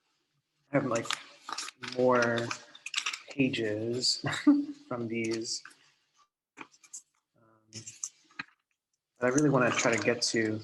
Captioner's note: laughs